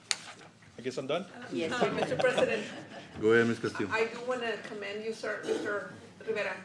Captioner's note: laughter